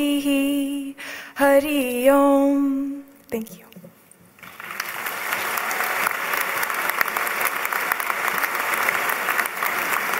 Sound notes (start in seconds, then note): 4.4 applause